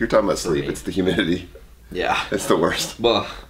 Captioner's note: laughs